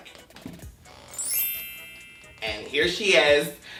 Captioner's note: light chimes